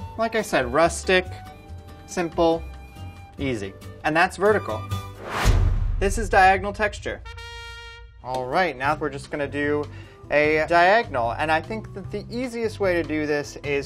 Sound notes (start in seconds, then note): 5.1 whooshing; 7.1 trumpet blares